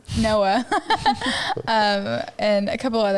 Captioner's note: laughs